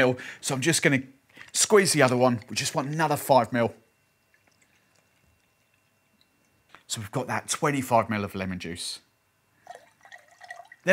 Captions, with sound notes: so I'm just going to squeeze the other one. We just want another 5 mil. (squeezing lemon) So we've got that 25 mil of lemon juice. (pouring liquid)